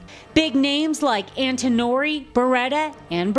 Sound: voiceover

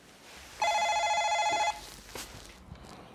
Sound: sounds the door bell

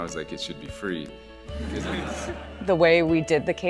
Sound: laughing

